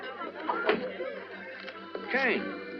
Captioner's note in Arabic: يُفتح الباب